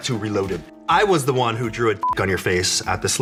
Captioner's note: beep